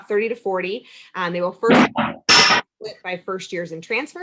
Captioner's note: static crackling